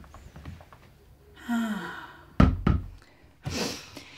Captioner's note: sighs